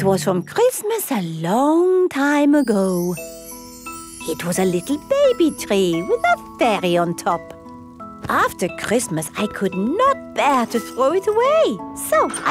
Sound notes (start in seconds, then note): none